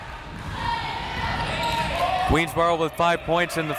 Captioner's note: crowd members shouting